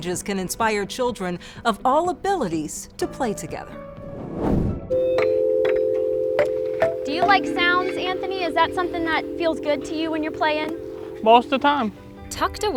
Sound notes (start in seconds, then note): 4.9 swooshing; 5.0 playground xylophone vibrating sounds